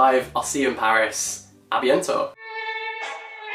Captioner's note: speaks in foreign language; classical music